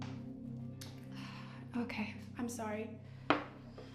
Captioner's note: sighing